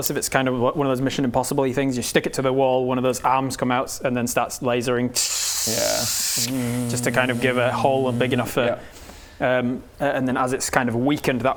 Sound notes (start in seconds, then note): 5.1 tssssss